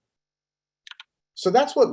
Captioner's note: keyboard clanking